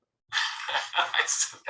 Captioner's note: laughter